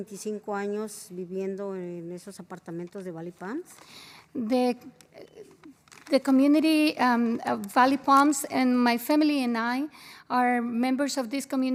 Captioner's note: spanish